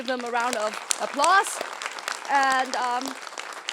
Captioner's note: applause